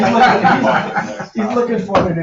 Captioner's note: laughing